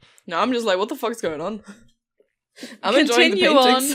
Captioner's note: laughter